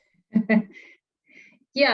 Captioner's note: chuckling